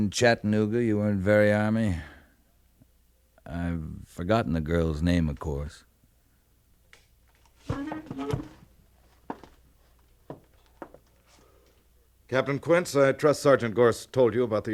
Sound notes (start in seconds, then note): 7.6 door creaks